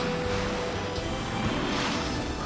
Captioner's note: thrusters roar